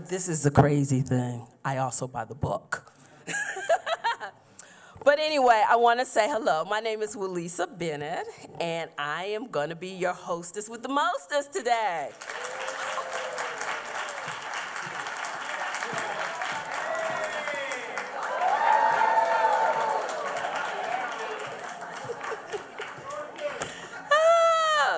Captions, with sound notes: But this is the crazy thing, I also buy the book. [laughs] Anyway, I want to say hello. My name is Wyllisa Bennett, and I am going to be your hostess with the mostess today. [applause]